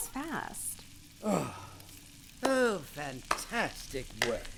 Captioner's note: sarcastic clapping